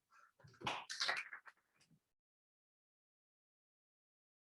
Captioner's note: applause